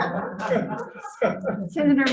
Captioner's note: members laughing